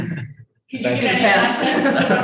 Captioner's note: laughing; laughs